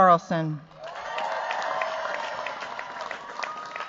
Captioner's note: cheers, applause